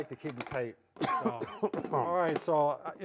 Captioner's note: coughing